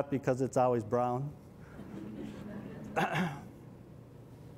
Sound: laughter

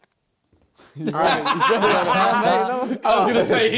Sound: laughter

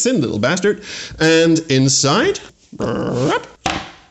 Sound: brrrp

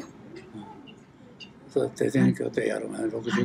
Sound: foreign language

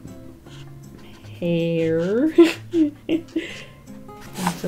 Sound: laughs

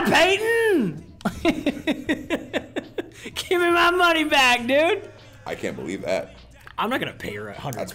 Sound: laugh

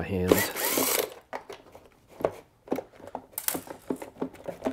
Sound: driver tool roaring

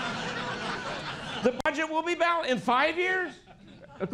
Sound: laughter

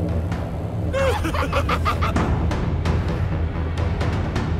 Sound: both laughing maniacally

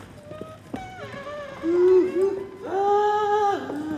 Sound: footsteps and singing

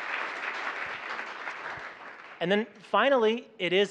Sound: applause

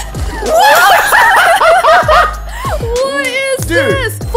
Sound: laughing

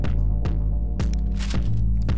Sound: foil unwrapping

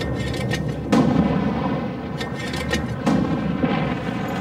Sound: mortars boom

